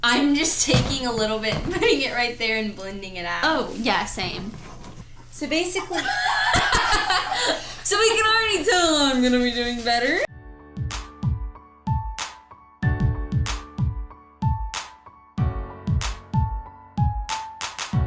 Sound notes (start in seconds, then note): 5.8 laughs; 10.6 upbeat music